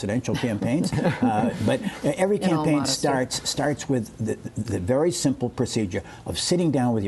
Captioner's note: laughter